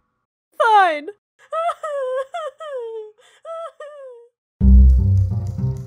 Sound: Smudge sobbing

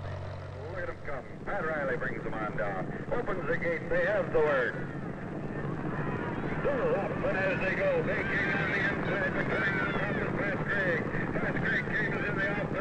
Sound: racetrack announcer chattering

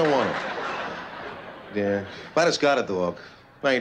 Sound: laughter

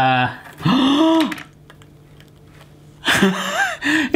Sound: gasping

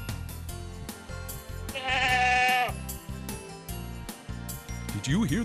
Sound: sound of a goat

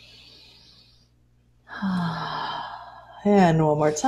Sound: inhales and exhales

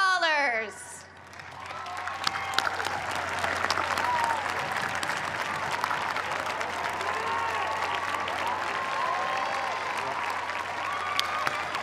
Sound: applause

